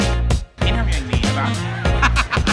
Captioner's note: laughs